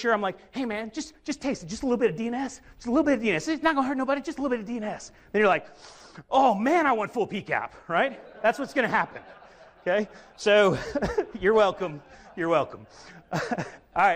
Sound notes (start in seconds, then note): 5.7 sniffs; 7.9 audience laughs; 13.1 laughs